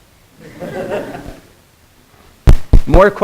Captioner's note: students laughing